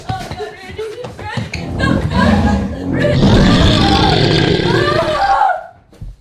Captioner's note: gruñido de hombre lobo; sollozando